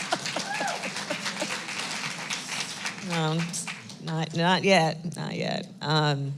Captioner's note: applause; laughs